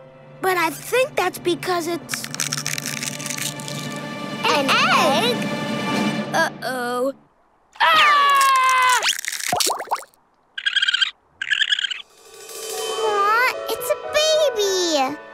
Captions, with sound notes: but I think that's because it's - An egg? - An egg! Uh oh. [screaming] [chirping] Aw, it's a baby!